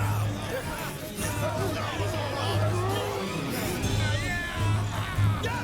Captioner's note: all cheering